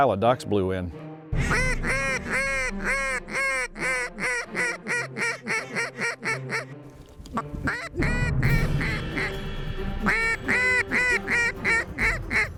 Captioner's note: duck calls